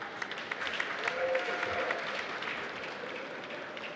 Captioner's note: applause